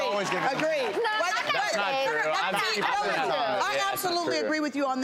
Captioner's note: guests yelling